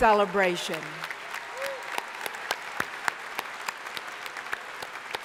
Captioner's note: crowd applauding